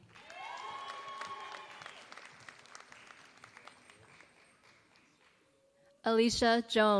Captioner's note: applause